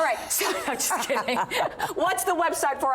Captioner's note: laughter